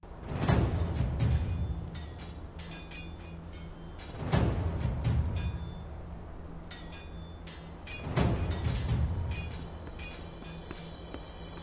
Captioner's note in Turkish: Kılıç sesleri